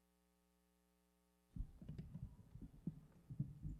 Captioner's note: mic rumbling